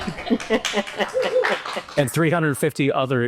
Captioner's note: laughs; audience applauds